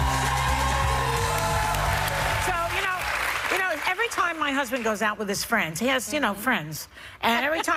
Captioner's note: cheers and applause